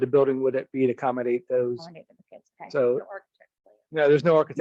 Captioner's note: two people murmur